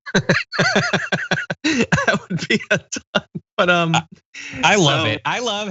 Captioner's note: laugh